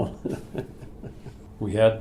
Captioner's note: laughs